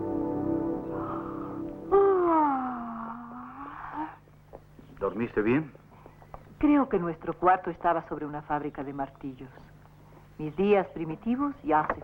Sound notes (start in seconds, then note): 1.9 yawning